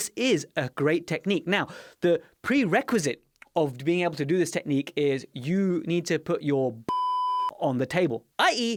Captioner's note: beep sound